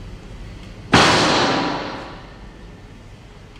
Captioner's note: gunfire